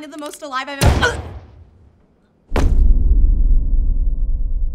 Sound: gun shot blaring

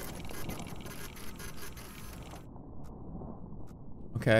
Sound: machine whirring

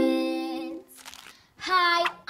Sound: paper crumpling

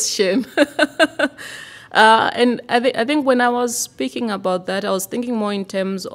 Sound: laughter

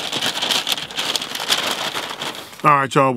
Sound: bag crinkles

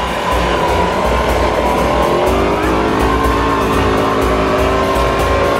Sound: dune buggy roaring; exciting Arabic music

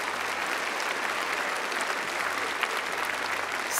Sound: applause

